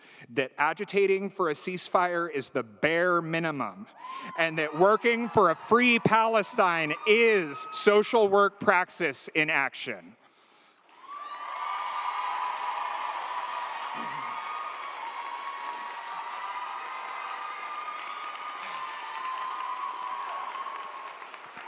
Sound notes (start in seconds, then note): 10.9 audience applauds; 10.9 audience cheers